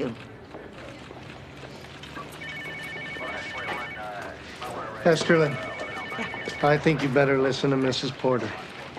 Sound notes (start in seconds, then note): 5.0 phone ringing